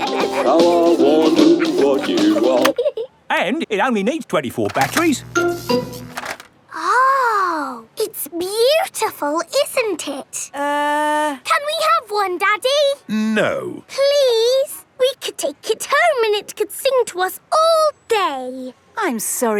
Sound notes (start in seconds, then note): 0.0 both giggling; 4.8 buzzing